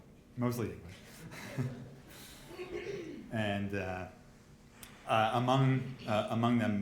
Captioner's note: group laughs